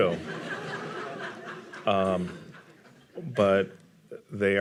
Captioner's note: audience laughing